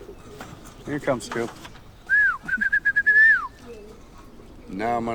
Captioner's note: whistling